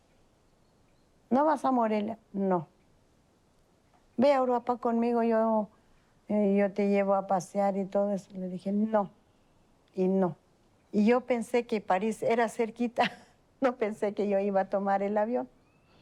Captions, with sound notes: "Don't you go to Morelia?" "No." "Come to Europe with me, and I'll show you around." I said, "No. No." And I thought that Paris was close. [laughs] I didn't realize that I would be getting on a plane.